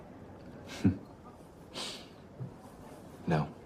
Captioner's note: scoffs